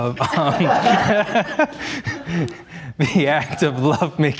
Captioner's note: participants laugh